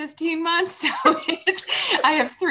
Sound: panel laughs

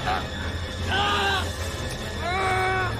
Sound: screaming

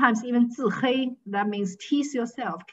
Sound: speaking foreign language

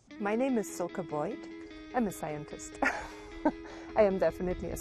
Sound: laughs

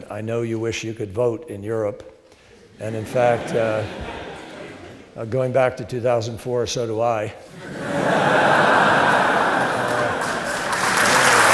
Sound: laughter; laughter and applause

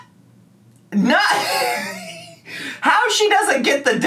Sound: laughing

